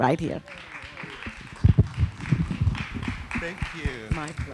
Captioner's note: applause